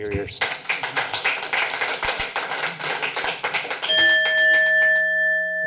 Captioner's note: applause